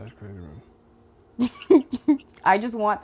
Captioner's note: laughing